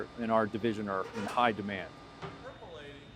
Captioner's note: object squeaking